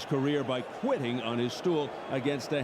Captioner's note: applause